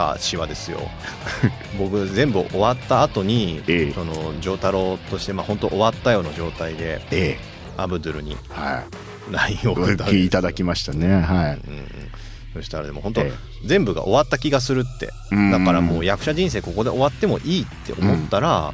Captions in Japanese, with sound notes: 僕全部終わった後に そのジ太郎として、ま、本当終わったような状態で ええ、 アブドゥルに はい。LINEは うん。うん。そしたらでも本当全部が終わった気がするって。 [鼻息] だからもう役者人生ここで終わってもいいって思ったら